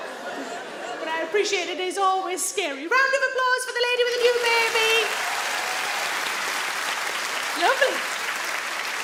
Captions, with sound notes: But I appreciated it is always scary. Round of applause for the lady with a new baby. (audience clap) Lovely.